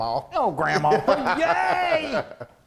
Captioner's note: laughing